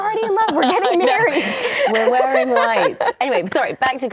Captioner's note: laughing